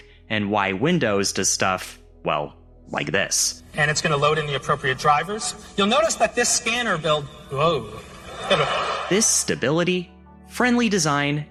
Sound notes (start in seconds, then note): 8.0 crowd laughing